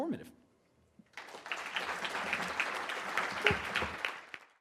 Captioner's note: audience clapping